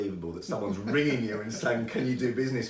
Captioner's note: laughing